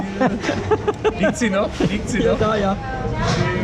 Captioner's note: laughter